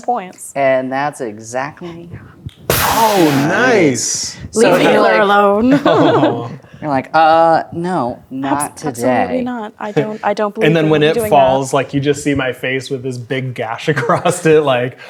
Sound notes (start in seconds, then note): 2.7 imitates explosive punch; 4.5 all talking and laughing at once